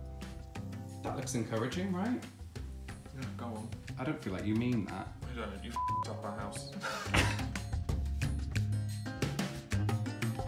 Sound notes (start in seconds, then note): 5.7 beep; 7.8 gentle music